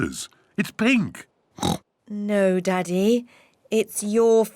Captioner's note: laughs; oinks